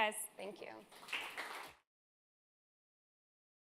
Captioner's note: applause